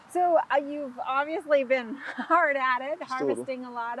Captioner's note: laughing